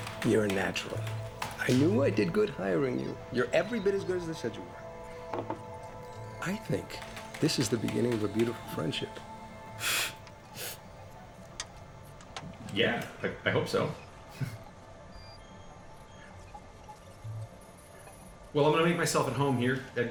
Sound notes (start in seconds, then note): 9.8 gasp from inhaler; 14.3 chuckle